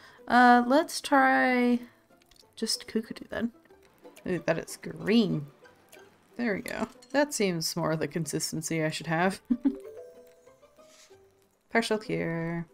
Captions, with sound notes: Uh let's try just cuckoo dew then. It is green! There we go. That seems more of the consistency I should have *laughs* Partial cure.